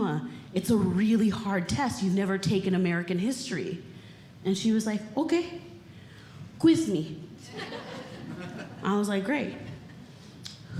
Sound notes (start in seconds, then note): 7.5 audience Laughing